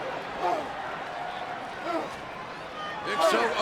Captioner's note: Undertaker groaning